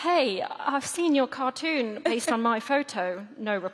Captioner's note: laughter